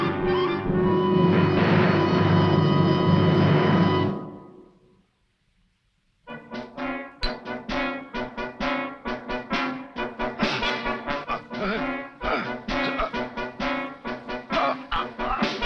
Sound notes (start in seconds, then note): 12.1 Shugfoot grunts